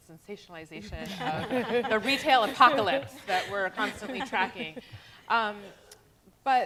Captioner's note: laughter